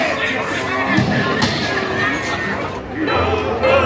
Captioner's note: gun bangs